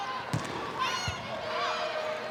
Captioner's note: ball thumping; players shouting indistinctly